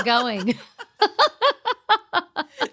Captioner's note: laughing